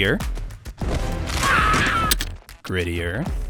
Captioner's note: screams